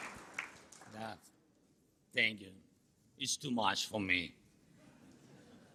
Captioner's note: applause